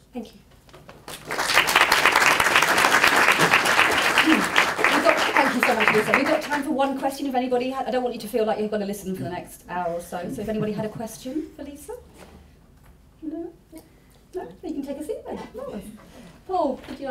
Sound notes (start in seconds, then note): 1.0 applause